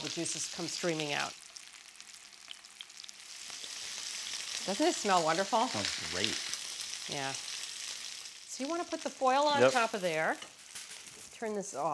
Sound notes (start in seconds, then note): 2.5 steak sizzling